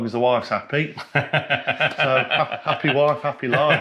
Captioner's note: laughs